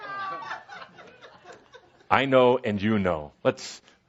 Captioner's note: laughter